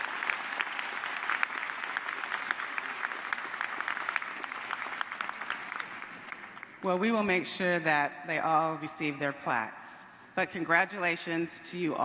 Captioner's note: applause